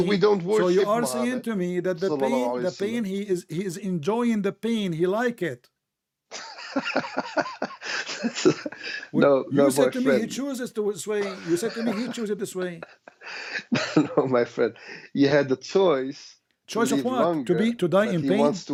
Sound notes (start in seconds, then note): 6.3 Ketawa